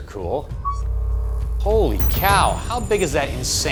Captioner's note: electronics beeping